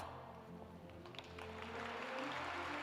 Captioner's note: applause